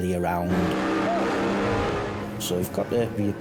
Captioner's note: engine revving